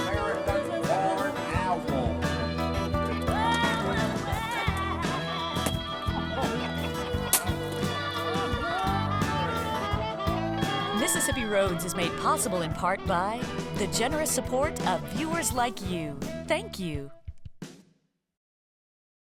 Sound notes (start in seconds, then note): 5.1 crowd laughing